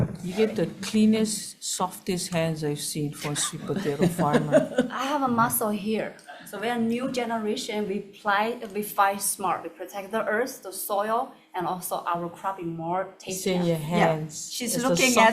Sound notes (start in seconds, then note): 4.9 everyone chuckles